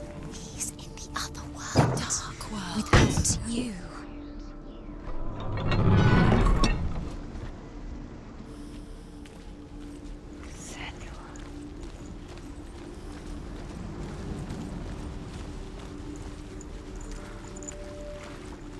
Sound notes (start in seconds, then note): 0.8 whisper; 10.9 whisper